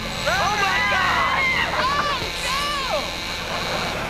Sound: laughing; beeping

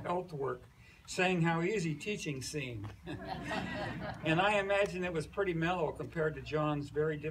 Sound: laughs

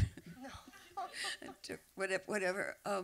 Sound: laughter

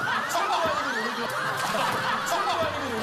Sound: laugh

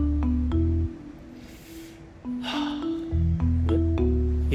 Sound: inhales

